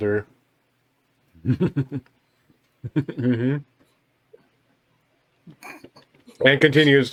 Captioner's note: laughter